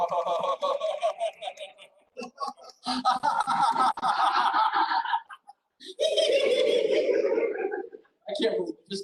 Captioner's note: laughter